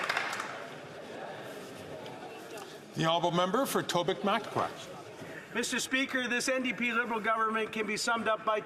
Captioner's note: some Applause